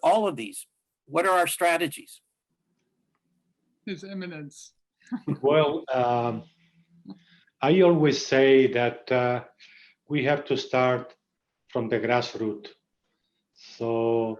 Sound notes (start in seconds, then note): 5.2 participants laughing